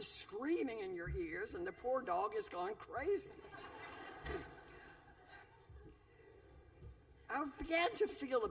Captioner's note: laughter